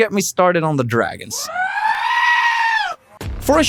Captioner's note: dragon screams